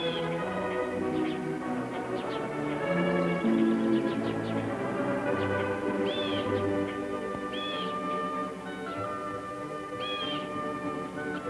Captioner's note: blue Jay calling